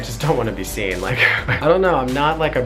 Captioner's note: laughs